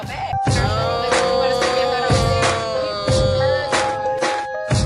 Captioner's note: groaning